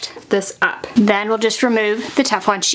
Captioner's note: sheet crinkling